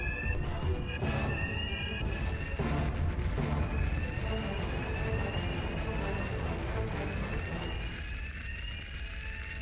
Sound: alarms sound, energy blasts in the distance

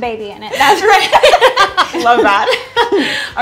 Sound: laughter

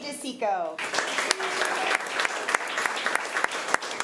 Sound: applause

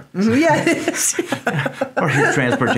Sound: both laughing

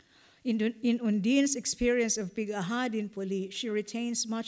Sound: non-english

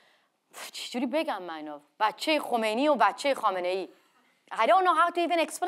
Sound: speaks in foreign language

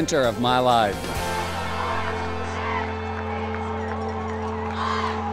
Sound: crowd chanting and cheering; crowd

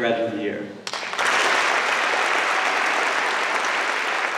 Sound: applause

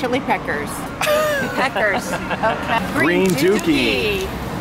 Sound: laughter

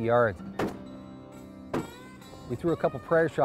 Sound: gunshots

